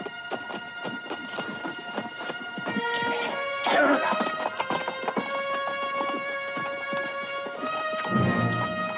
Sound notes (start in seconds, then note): 4.0 Delgadito hablando idioma extranjero; 5.6 música dramática